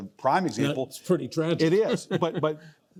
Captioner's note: chuckles